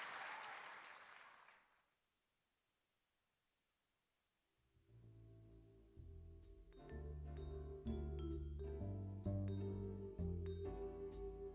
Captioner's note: applause